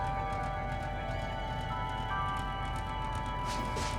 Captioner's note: rumbling sound